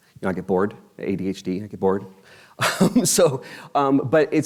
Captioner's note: laughs